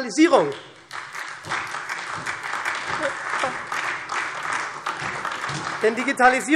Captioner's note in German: Beifall SPD und vereinzelt DIE LINKE